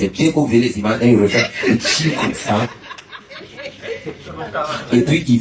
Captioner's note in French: rires